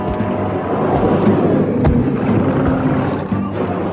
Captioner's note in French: Grognement